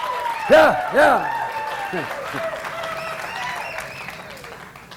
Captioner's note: speaker laughs